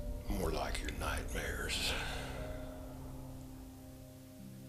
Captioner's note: sighing